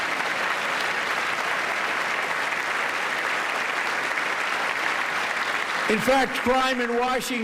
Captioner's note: applause